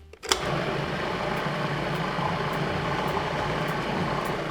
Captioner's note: food processor whirs